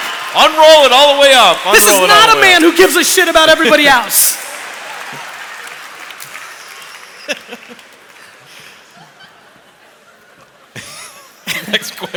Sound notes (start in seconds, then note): 3.3 cheering; 5.1 laughter